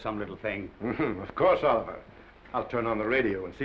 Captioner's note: chuckles